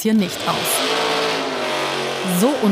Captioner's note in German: Lautes Motorendröhnen